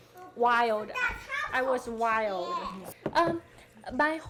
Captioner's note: child speaking in background